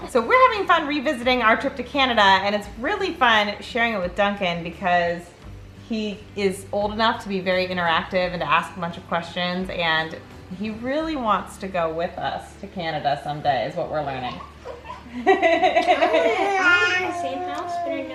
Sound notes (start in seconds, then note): 14.6 laughs hinders other voices; 14.7 laughs loudly